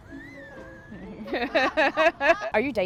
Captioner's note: laughter